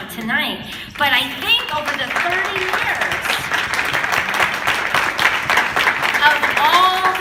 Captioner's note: applause